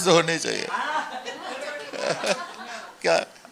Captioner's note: chatter